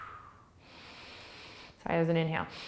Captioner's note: inhaling